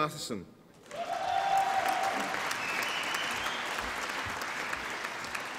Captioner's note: applause and cheering